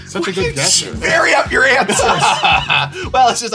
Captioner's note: laughs